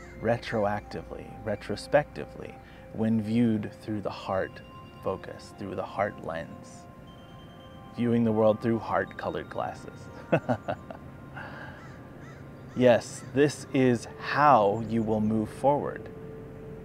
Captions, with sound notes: retroactively, retrospectively, when viewed through the heart focus. Through the heart lens. Viewing the world through “heart-colored glasses.” (laughs) Yes. This is how you will move forward.